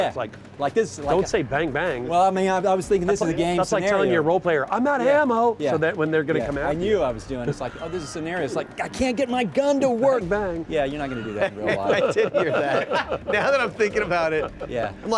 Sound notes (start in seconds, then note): 10.8 laughs